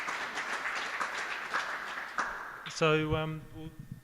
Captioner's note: applause